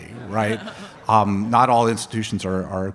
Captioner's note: audience laughs